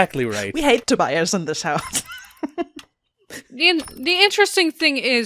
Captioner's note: laughs